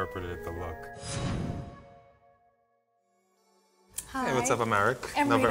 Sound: whooshing

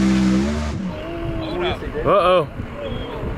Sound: crowd

